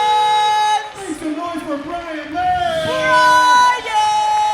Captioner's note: applause